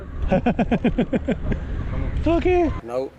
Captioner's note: laughing